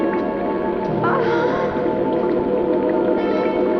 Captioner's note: Liz moaning